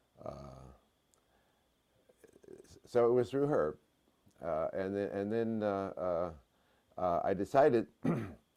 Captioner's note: cough